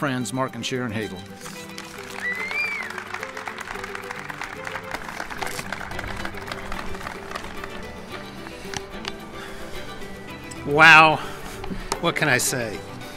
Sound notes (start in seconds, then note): 1.4 crowd clapping; 8.1 soaring music